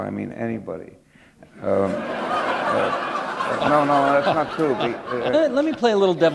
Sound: laughter

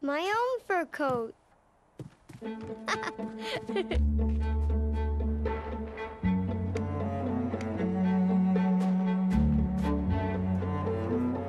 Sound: laughing

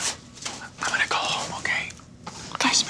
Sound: whispers

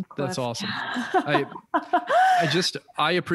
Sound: laughs

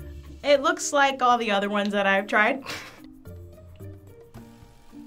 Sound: laughs

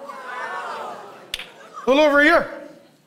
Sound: congregation stirring

